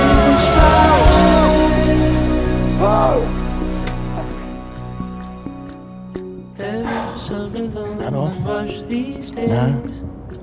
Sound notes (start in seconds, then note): 0.0 happy ruckus; 2.8 shouts; 6.8 deep sigh